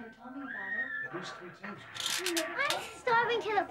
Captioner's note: parents bickering